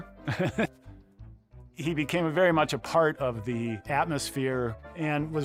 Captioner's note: laughs